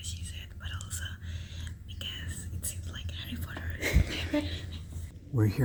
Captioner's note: laughs